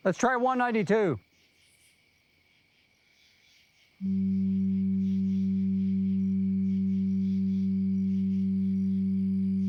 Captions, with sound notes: Let's try 192. [low-pitched tone sounds]